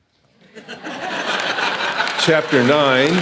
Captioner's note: audience laughing